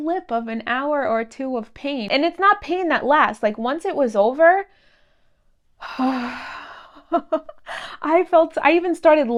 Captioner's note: relaxing sigh